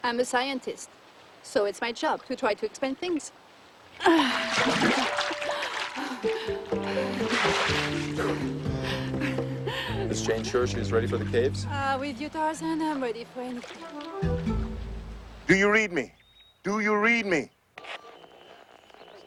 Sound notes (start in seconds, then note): 4.9 water splashing; 6.1 playful music